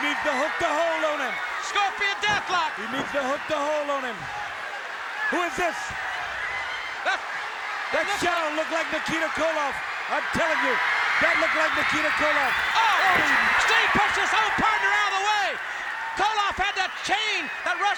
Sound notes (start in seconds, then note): 5.8 crowd cheering; 13.3 crowd cheering